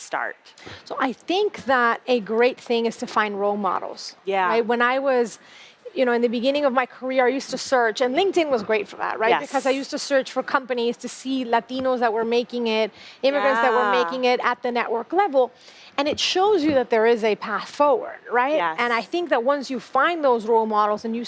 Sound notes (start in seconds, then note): none